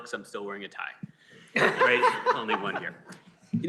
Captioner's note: laughter